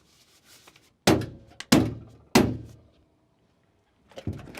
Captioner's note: pounds on door